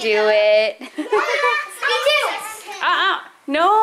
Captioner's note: laughs